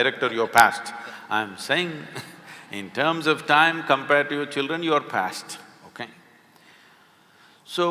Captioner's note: laughs